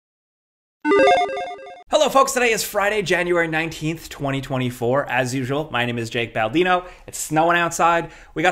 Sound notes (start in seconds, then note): 0.9 logo bleeping